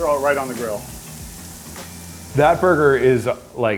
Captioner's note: burgers sizzling